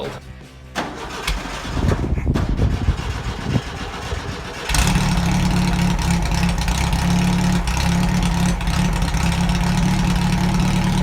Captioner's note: starting engine